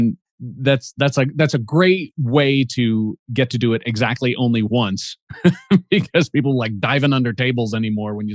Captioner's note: chuckles